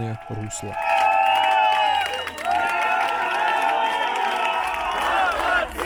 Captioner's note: applaud